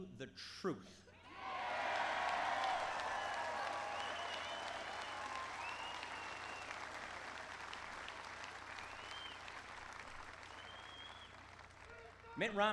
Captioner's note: applause